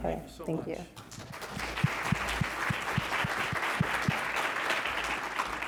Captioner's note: congregation clapping